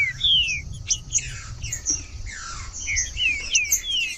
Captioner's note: trinca ferro cantando